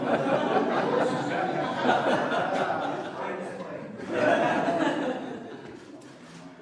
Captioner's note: laughter